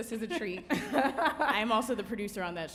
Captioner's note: laughs